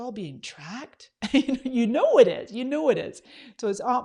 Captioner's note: laughs